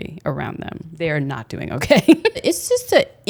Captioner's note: laughs